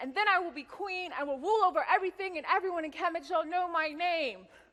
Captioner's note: none